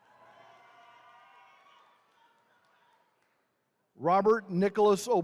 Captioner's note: attendees cheering